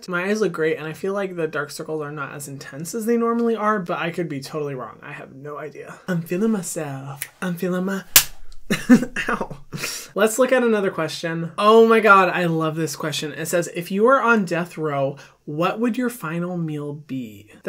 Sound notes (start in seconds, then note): 8.1 fingers snapping; 8.3 clapping; 8.7 laughing